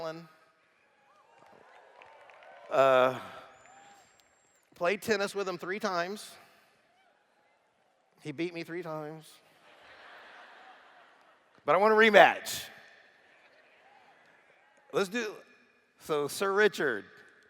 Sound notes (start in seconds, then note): 9.5 laughter